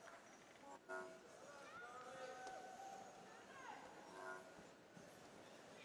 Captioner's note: people chattering softly